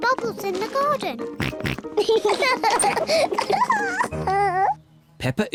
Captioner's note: oinks; both oink and laugh